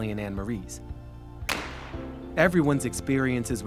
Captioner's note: shotgun banging